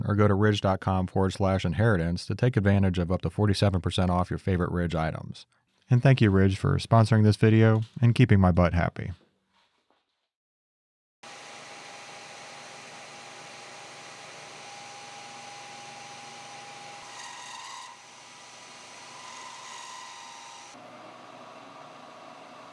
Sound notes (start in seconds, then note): 11.5 machine motor hums; 17.5 cutting tool squeakily scrapes against rod